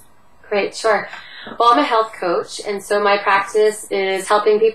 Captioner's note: Vietnamese